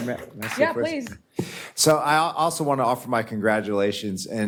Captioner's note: applause